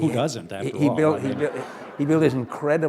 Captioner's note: laughter